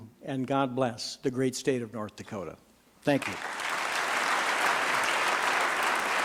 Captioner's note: applause